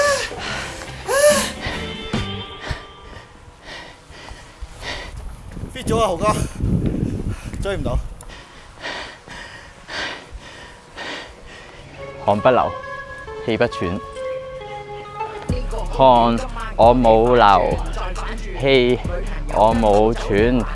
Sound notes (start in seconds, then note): 8.2 out of breath